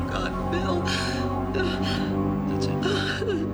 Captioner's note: Nora crying